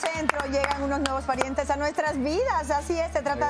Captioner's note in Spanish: aplausos